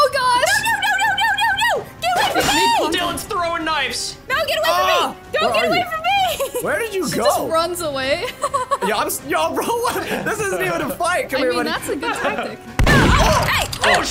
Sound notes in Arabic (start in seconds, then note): 8.2 ضحكات خافتة